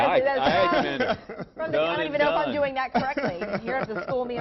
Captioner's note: laughter